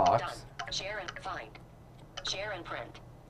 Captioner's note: device speaking